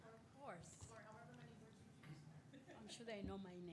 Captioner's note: murmurs